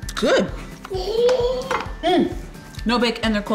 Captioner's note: baby gurgles